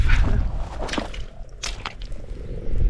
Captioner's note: squelch squelch